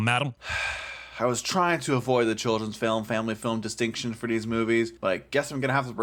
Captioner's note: sigh